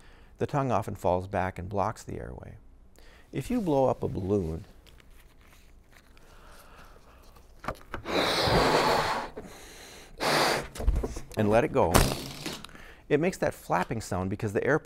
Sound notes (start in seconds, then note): 8.0 blowing; 12.0 balloon flapping